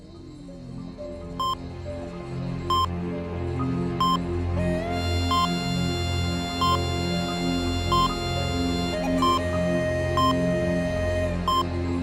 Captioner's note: heart monitor beeps; creepy Music